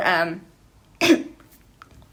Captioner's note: cough